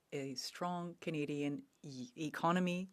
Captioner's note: speaking French